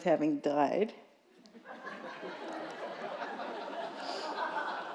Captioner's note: laughter